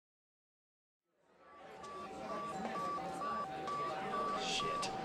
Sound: phone beeping

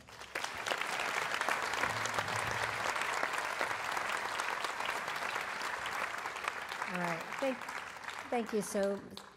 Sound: applause

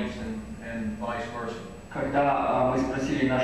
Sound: non-english speech

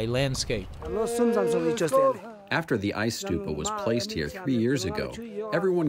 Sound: through translator

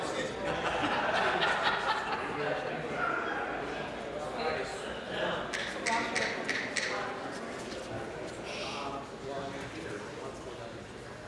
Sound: conversation din

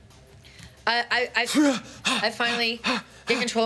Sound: Anton pants

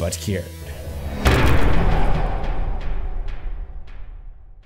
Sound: impact

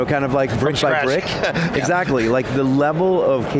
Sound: laughs

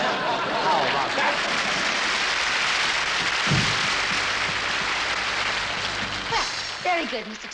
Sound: drum-roll; applause

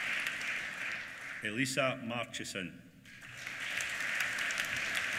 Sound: applause

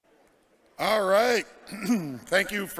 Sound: clears throat

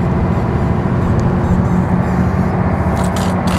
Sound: boat roars

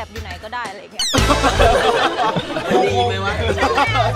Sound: laughs

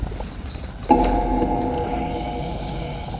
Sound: burbling; eerie chime reverberates; disembodied growling

